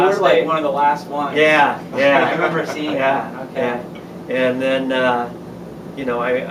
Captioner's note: laughter